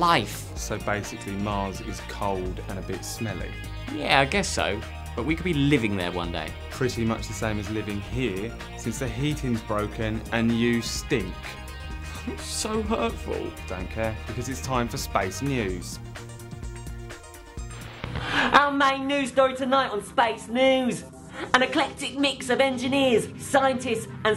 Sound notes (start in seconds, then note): 17.7 static